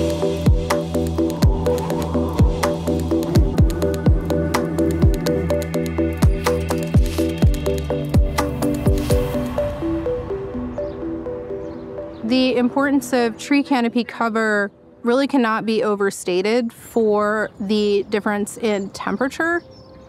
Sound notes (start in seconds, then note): 0.1 upbeat techno music; 9.2 birds chirping